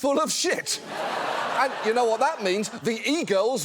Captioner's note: audience laughs